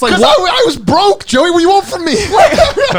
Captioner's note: laughing